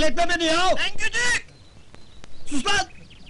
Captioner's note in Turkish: telsi̇zden ses geli̇r